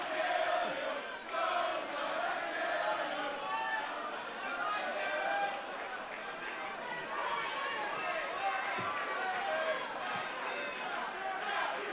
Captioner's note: crowd cheering